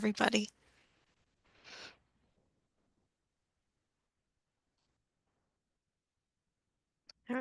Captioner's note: silence